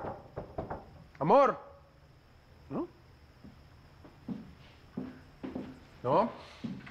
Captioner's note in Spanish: Sonido al tocar